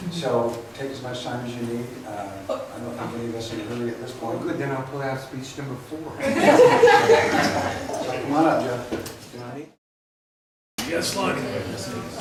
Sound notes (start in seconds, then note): 5.4 voiceover; 6.3 laughs